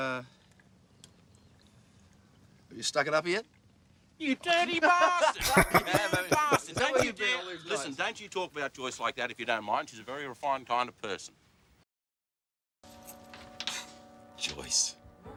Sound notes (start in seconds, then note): 4.8 laughing